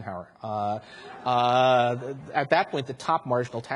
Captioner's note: audience laughs